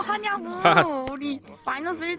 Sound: laughs

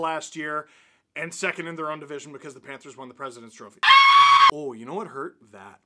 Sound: scream

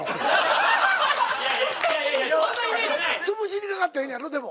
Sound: laughs

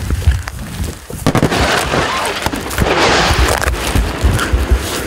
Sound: gunfire

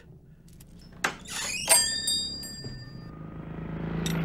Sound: door creaks; coins roll

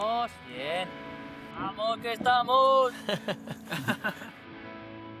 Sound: laughter

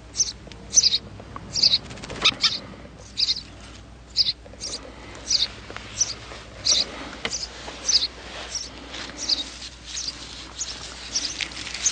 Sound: more birds chirping

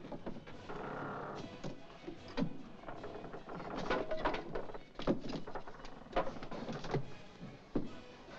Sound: wall creaks

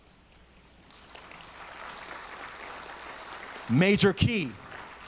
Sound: audience applauds

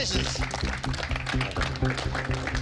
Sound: contestants applaud

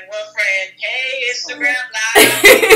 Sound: laughs

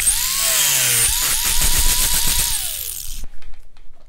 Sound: sander whirring

